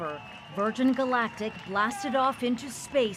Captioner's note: cheering